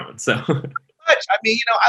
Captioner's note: chuckles